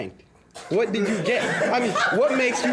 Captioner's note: students laughing